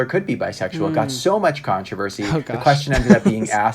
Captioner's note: laughs